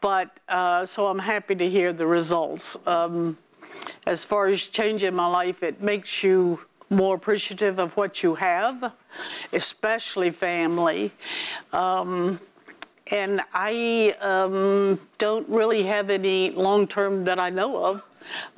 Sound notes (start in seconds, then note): none